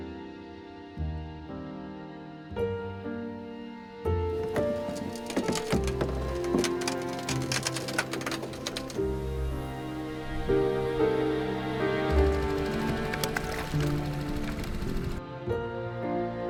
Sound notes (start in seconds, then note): 6.3 creaking door; 8.9 boat engine revving; 8.9 melancholic music